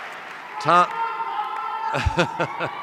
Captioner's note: audience member shouting; laughs